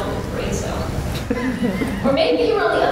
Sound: laughter

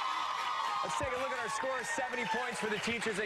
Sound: cheers and applause

